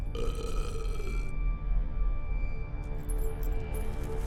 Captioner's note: Brocheet belches